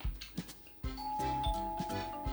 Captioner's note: ding-dong🔔